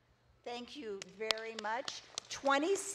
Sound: audience claps

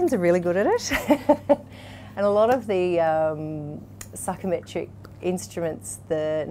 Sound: laughs

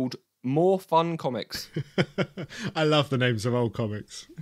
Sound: laughs

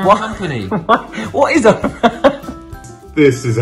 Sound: laughs

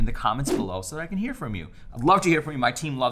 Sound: air whooshing

